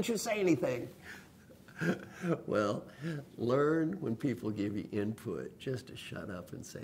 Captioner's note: laugh